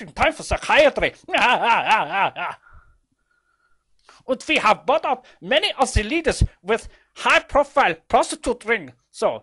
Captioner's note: laughs